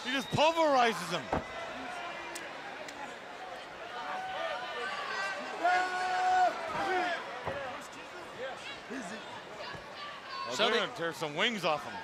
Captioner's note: crowd chatter